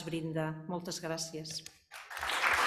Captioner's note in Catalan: Aplaudiments